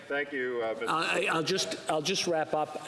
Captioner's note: speaking French